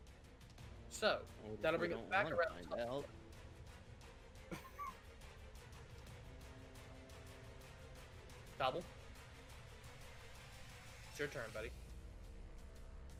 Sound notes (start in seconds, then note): 4.5 laughs